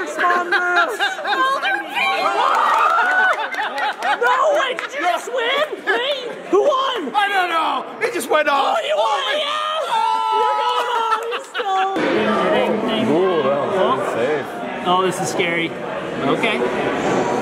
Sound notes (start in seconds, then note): 2.6 group cheers